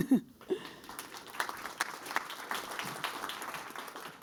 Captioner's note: applause